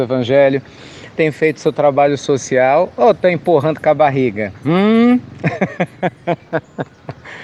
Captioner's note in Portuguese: Risos